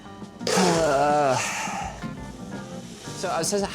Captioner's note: upbeat music continues; groans